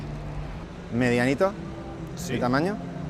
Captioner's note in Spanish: none